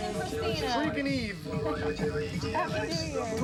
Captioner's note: chuckles